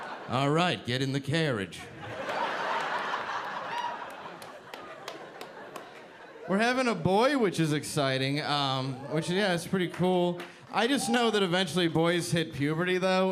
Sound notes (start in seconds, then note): 1.8 audience laughing